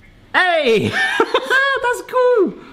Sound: laughs

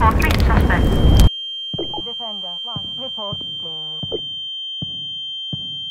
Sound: radio; ear ringing; radio, faintly

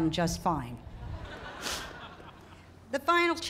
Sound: laughter

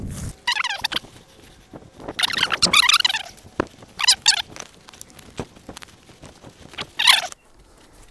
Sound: high pitched sounds of the film being sped up

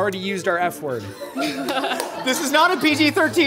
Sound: laughing

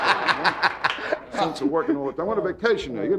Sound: audience laughing

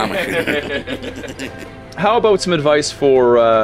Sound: everyone laughing

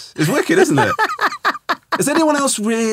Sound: laughing

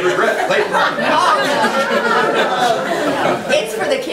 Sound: group laughs

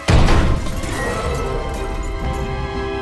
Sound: growls

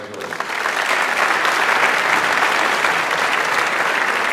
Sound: audience applauds

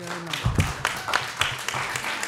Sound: applause

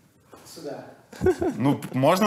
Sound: laughs

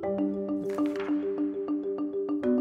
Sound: gentle music; slide flips; gentle music

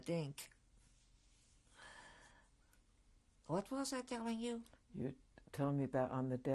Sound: pauses for 3 seconds

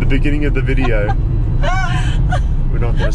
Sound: laughing

